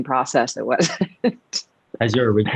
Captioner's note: laughs